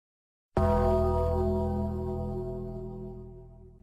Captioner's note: funeral Gong FX